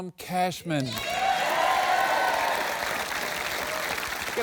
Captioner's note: cheering and applause